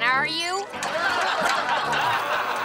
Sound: simulated laughter

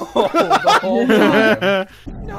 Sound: laughter

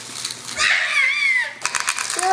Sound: screams

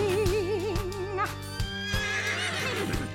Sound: unicorn whinnies; whinnies

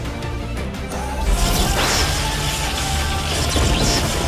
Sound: whirring sound

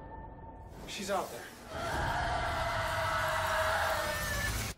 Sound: screaming

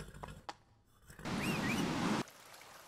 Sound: whistle

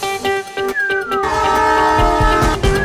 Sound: train horn; whistling

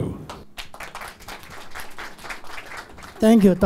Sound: applause

